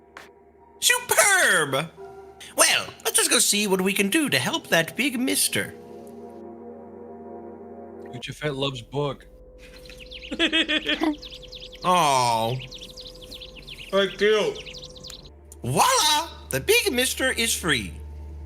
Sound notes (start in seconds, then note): 10.2 laugh